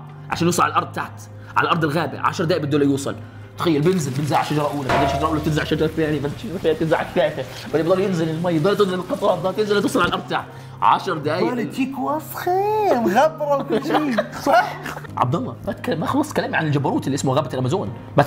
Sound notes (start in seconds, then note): 13.6 laughs